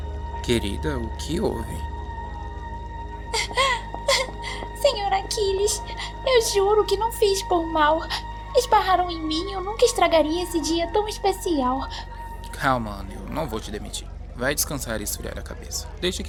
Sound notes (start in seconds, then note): 4.3 Ana cries